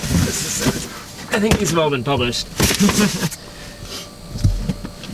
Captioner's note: laughs